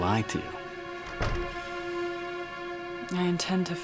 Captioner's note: door clicking